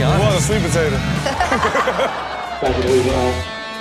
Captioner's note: laughing